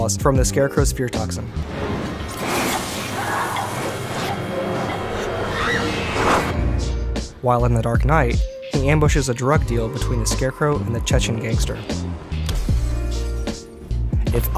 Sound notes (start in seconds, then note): 2.6 screams; 12.4 glass shattering